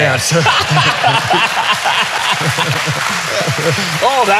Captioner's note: all laughing